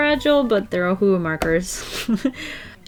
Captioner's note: chuckles